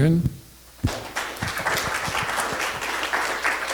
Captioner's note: audience applauding